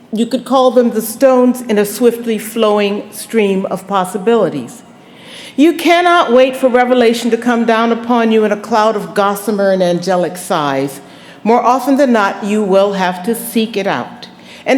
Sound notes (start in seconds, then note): none